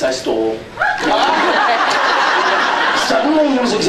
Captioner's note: laughs